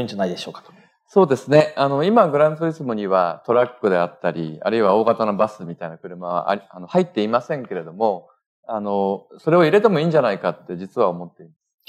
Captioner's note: speaking japanese